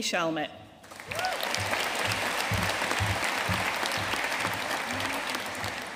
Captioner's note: audience cheering and applauding